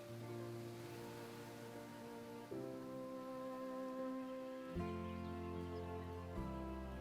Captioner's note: gentle music; birds chirping